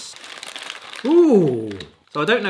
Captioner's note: bag rattling